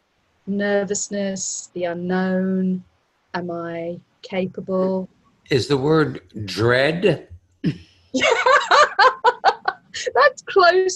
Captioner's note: laughing